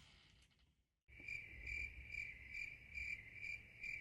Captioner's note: crickets chirp